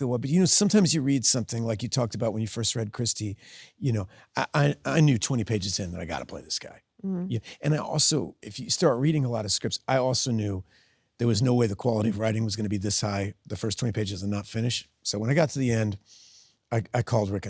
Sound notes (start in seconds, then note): 6.9 Sydney hums